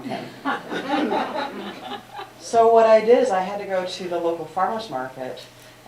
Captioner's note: laughter